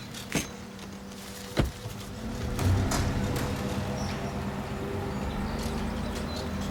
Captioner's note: tense music; car door closes and engine hums